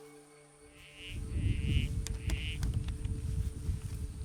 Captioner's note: sound of frog call